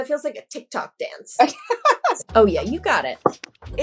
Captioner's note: laughter